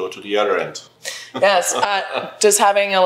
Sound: laughs

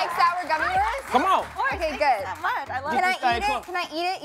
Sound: cheers and applause

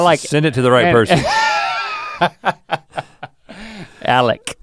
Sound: Link laughs

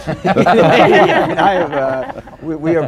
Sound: laughter

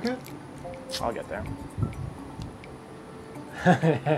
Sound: laughs

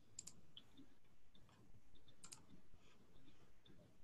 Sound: typing clicks

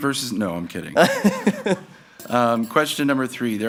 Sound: laughs

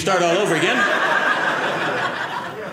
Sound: audience laughing

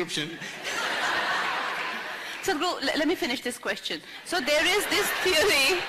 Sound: laughter; laughter

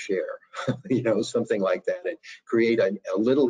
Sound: chuckles

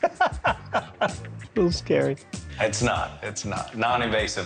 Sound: laughs

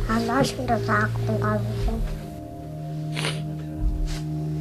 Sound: speaking foreign language

